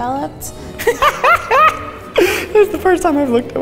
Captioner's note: laughs